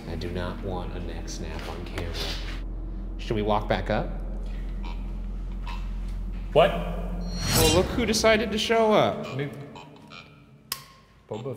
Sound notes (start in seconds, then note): 5.1 Ovilus buzzing; 9.5 Ovilus buzzing